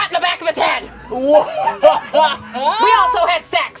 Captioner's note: laughing